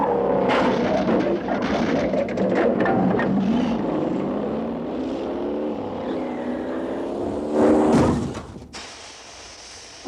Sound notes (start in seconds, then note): 0.0 cars crashing; 2.5 car engines revving; 7.8 car thudding